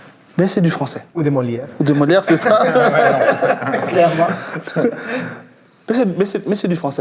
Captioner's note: laughs